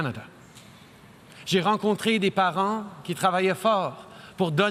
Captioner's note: speaking French